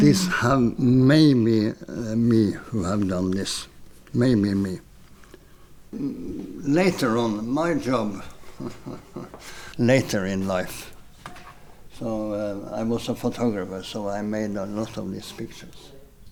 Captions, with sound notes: This have maybe me who have done this, maybe me. Later on in my job, (chuckles) later in life, so I was a photographer, so I made a lot of these pictures.